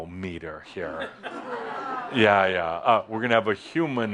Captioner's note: a few chuckles